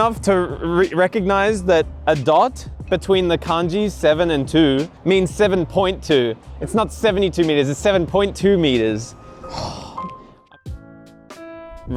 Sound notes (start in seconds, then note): 9.4 sighs